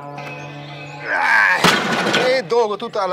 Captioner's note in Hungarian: Grunting